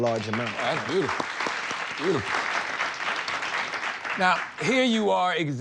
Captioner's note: audience applauding